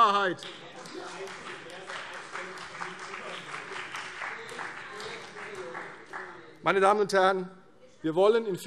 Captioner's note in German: Beifall CDU und vereinzelt BÜNDNIS 90/DIE GRÜNEN - Zurufe SPD